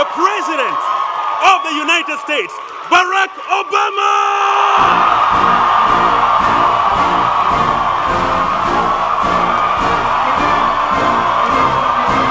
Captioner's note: cheers and Applause; cheering